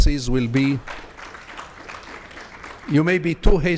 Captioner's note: audience applauds